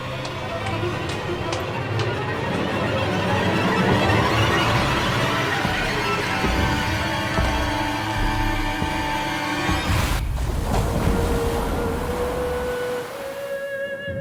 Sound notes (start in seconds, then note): 4.7 menacing music; 10.2 waves rumbling